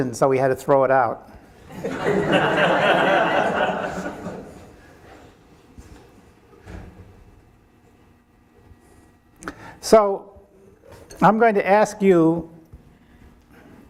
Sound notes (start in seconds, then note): 1.6 audience laughing